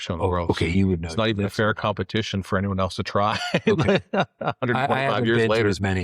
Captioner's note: laughs